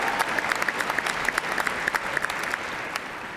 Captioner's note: applause